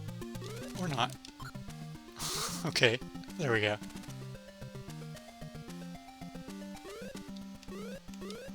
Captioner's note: laughs